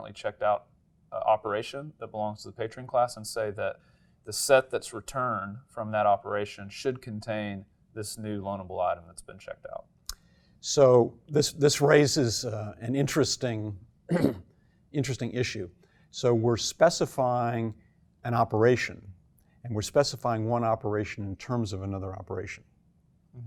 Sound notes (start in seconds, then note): 14.1 cough